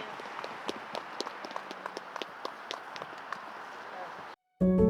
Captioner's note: applause